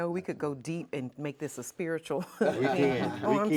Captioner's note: laughing